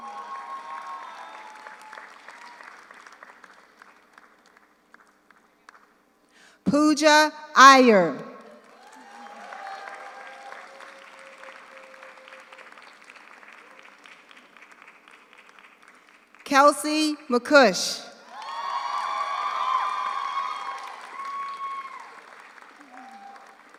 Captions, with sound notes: (audience cheers) (audience applauds) Pooja Iyer. (audience cheers) (audience applauds) Kelsey MacCuish. (audience cheers) (audience applauds)